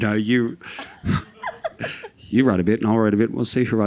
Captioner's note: all laughing